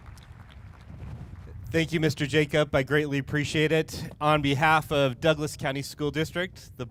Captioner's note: cheers and applause